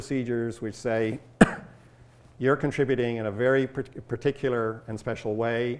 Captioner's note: coughs